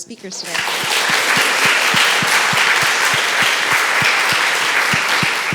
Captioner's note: applause